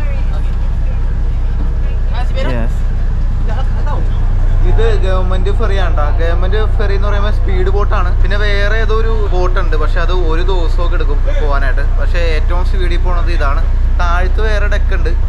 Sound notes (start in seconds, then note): 2.3 ambience men talking